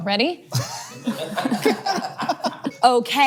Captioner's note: all laughing